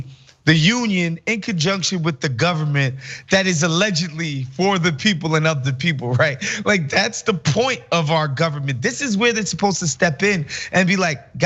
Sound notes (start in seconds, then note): 6.0 laugh